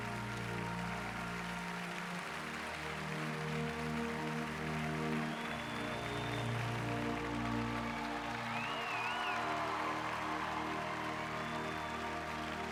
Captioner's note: applause